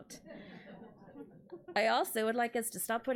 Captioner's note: audience laughs